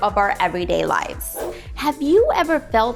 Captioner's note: air whooshing